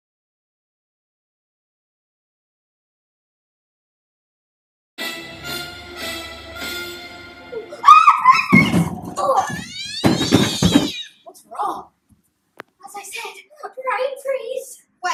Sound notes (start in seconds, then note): 7.5 shrieks; 9.2 cat yowls; 9.9 thud!